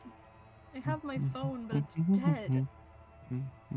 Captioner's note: humming